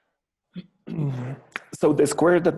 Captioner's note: clears throat